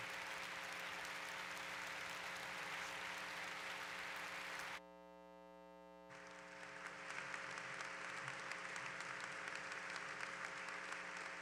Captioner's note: applause